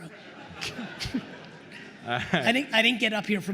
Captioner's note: attendees laughing